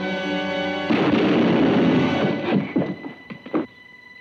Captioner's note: shotgun booms